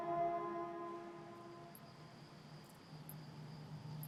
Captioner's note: insects chirring